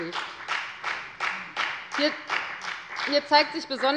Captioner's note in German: Beifall bei der FDP